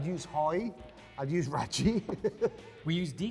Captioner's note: laughing